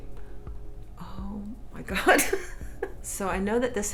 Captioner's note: laughs